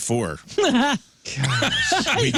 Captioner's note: laughing